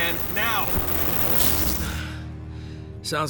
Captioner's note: static